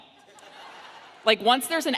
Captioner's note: audience laughs